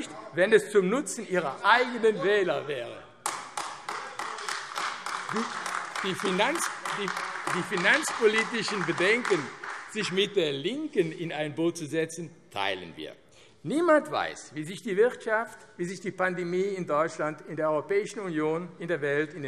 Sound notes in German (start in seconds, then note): 3.2 Beifall AfD - Zurufe